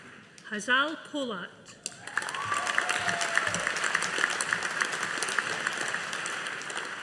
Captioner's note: audience applauding